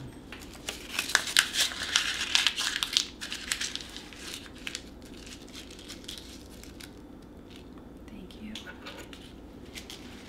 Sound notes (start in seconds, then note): 0.4 paper crumpling